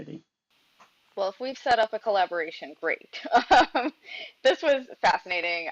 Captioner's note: chuckles